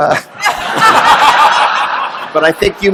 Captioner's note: laughter